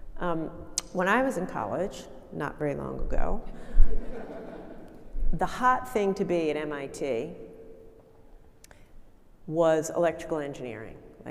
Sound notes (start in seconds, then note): 3.9 audience laughing